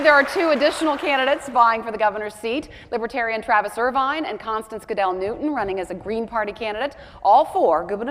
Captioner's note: cheers and applause